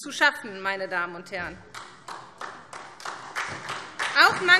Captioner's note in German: Beifall SPD